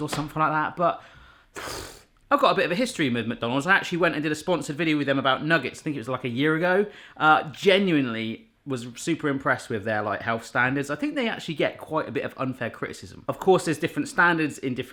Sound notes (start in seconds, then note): 1.6 blowing raspberry